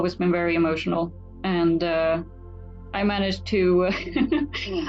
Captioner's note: laughs